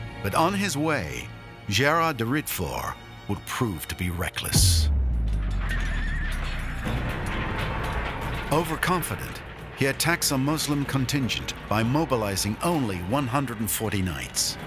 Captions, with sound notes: But on his way, Gérard de Ridefort will prove to be reckless. (Horses neighing) Over-confident, he attacks a Muslim contingent by mobilizing only 140 knights.